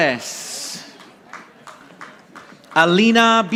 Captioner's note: audience applauding